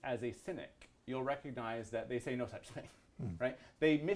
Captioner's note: laughs